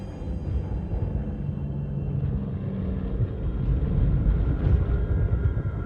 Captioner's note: airplane whirring